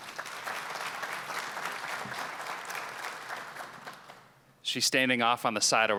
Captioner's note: applause